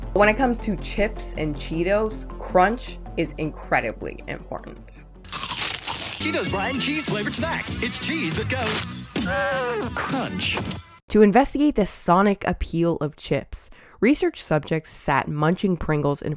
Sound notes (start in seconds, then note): 5.2 Cheetos crunching